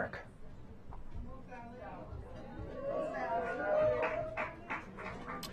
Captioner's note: applause